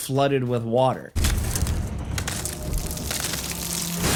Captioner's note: window cracking; water splashing